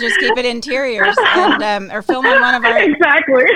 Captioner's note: laughing